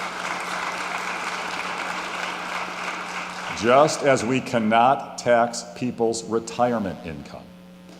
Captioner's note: applause